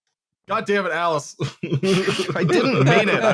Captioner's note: laughter